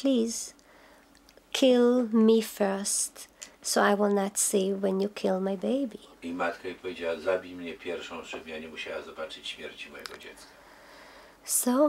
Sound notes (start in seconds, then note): 3.3 speaking Polish